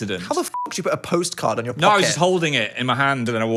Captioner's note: beep